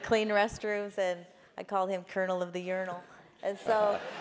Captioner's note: laugh